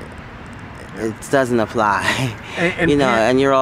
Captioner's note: light chuckle